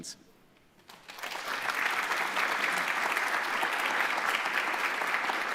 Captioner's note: audience applauds